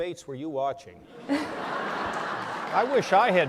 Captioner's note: laughter